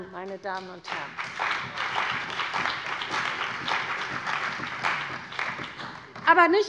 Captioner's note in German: Beifall bei der CDU und dem BÜNDNIS 90/DIE GRÜNEN